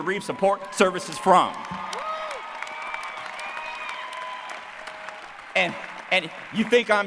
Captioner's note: applause